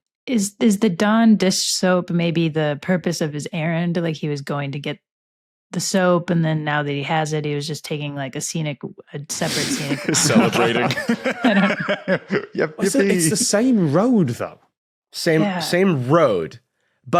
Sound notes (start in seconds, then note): 9.4 giggles